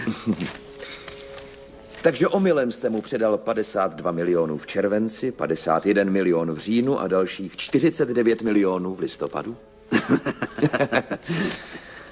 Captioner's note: laughter